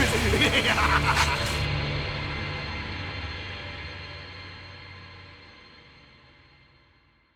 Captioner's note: laughing